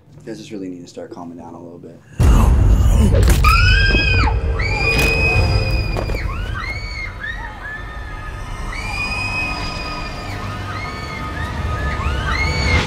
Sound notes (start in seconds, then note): 2.3 Morgan and Heather screaming; 3.0 blow thuds; 7.2 suspenseful music